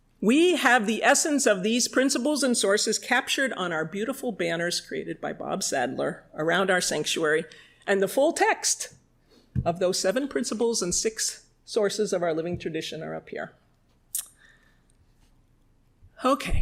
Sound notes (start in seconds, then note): none